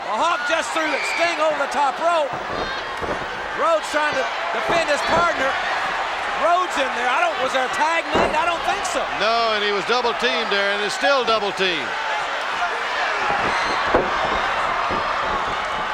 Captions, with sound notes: Hawk just threw Sting over the top rope. (crowd shout) Rhodes trying to defend his partner. Rhodes in there, I don't... Was there a tag made? I don't think so. No. And he was double teamed there, and is still double teamed. (crowd shout)